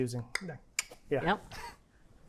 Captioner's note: palatal clicks